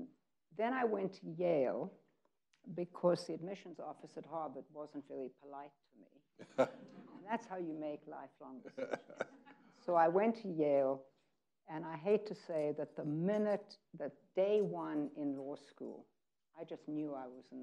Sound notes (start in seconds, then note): 6.4 laughing